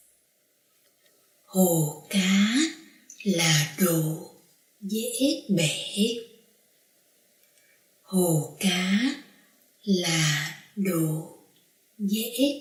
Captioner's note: reading Vietnamese dictation